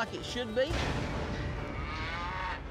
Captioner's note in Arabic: ضربات حوافر، خوار